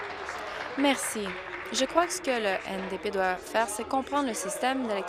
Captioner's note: applause